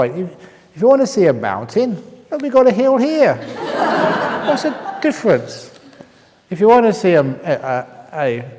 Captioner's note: laughter